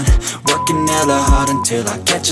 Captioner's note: timer beep